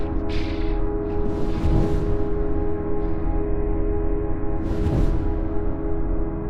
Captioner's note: wing flaps